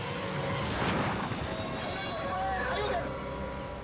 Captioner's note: car crashing